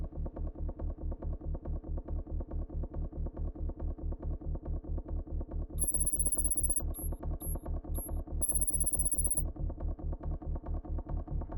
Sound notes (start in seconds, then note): 5.8 text whirring